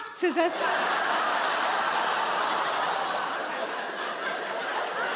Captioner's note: audience laughing